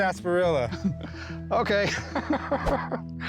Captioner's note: chuckles